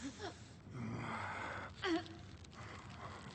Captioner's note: Lily gasping